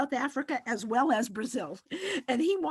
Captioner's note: giggles